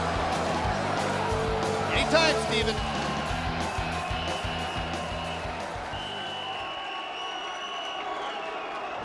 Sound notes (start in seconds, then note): 1.4 crowd booing; 5.8 whistle blowing